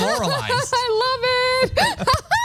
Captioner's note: laugh